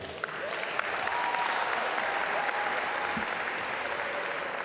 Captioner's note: audience applaud